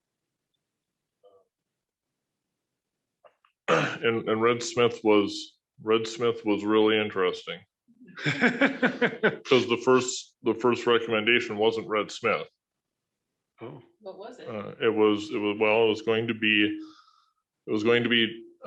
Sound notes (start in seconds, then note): 3.6 clears throat; 8.1 laughter